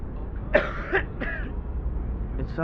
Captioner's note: teddy coughs